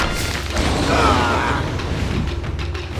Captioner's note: groaning